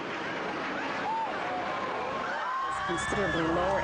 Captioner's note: airplane whooshing; people screaming